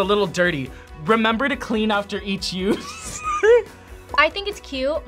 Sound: laughs

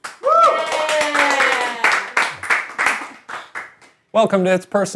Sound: clapping and cheering

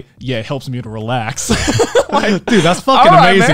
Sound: laughing

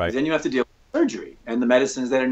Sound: audio skips

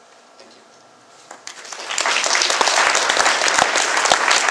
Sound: clapping

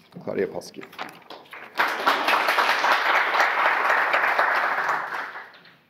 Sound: audience applause

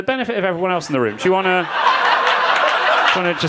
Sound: crowd laughing

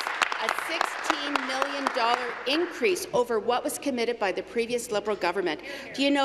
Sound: applause

